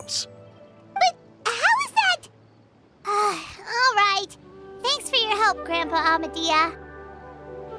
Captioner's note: sigh